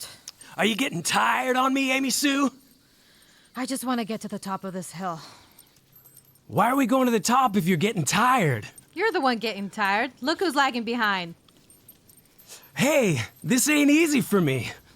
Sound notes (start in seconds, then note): 8.1 dog tags jingling